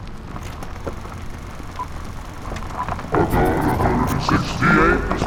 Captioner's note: film reel clicking